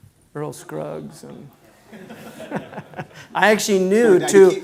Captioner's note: laughs